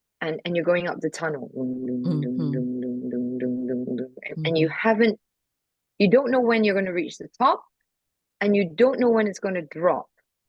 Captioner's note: sound effects